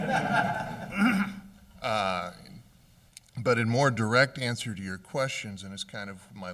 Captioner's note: laughter